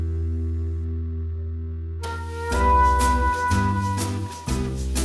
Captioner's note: none